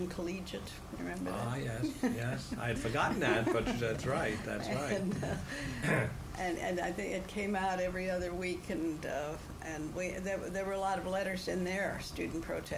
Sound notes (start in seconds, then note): 4.7 laughter